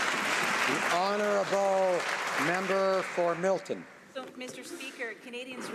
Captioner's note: some Applause